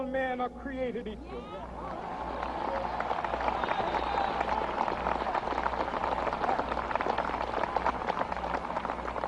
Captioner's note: applause